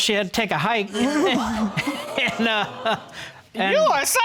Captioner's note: laughing; chuckles